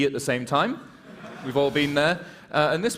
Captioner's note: laughter